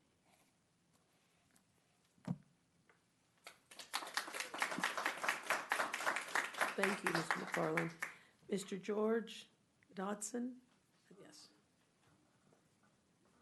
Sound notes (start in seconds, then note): 6.1 clapping